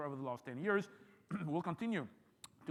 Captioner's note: clears throat